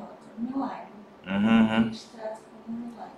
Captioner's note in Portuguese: murmúrios de afirmação